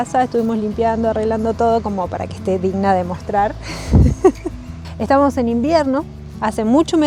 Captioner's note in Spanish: risas